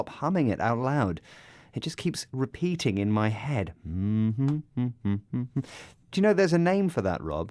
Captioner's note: more humming